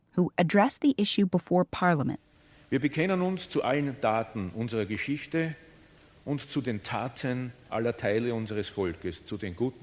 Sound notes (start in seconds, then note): 2.7 speaking foreign language